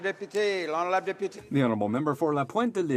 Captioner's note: applause